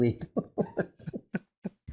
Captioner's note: chuckling